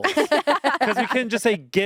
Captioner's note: everyone laughs